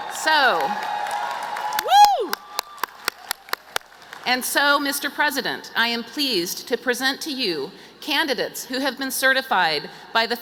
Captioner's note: cheers and applause